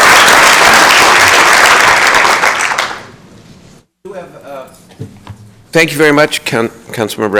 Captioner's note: applause